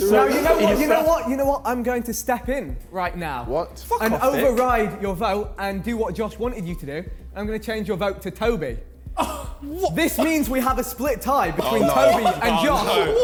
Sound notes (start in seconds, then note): 0.0 men chattering; 0.0 men laughing; 9.3 contestants gasping; 11.4 men laughing